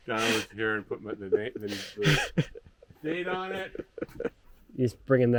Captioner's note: laughing